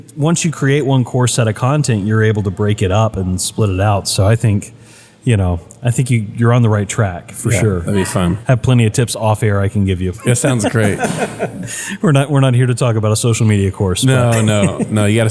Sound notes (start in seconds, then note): 10.2 laugh